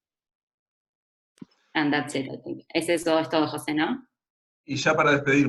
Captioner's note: Spanish